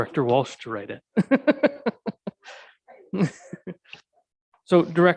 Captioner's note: chuckling